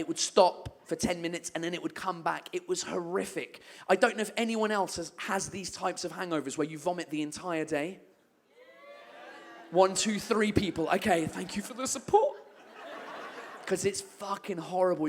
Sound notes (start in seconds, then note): 8.6 a few people whoop, others boo